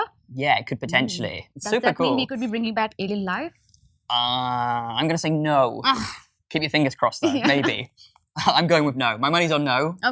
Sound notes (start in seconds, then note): 6.0 sighs; 7.2 laughs